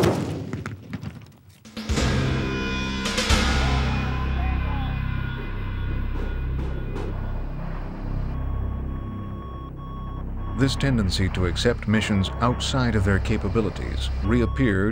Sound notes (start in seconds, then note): 1.9 ominous music; 10.8 voiceover